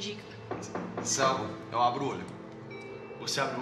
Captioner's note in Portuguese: batida na porta